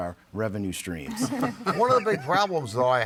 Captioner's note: all chuckling